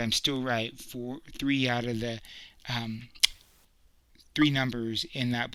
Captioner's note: clicks loudly